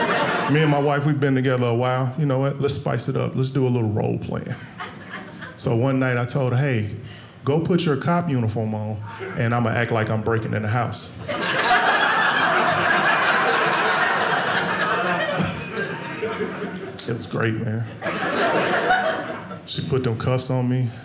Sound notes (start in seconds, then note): 11.2 audience laughing